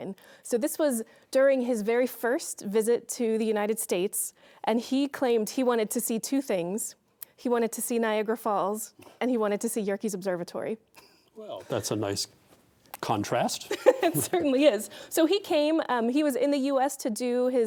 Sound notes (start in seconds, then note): 13.7 laughing